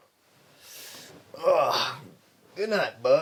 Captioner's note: Del grunts